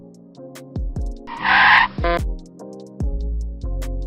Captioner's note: car screeches and honks